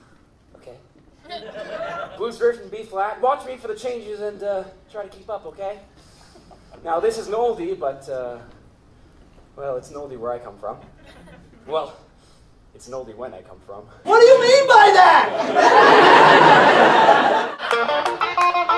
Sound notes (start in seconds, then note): 15.0 audience laughter